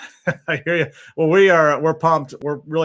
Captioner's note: laughing